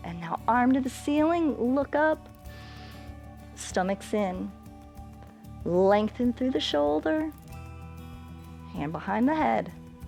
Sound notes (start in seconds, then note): 2.5 inhales